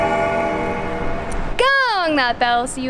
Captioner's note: bell Ringing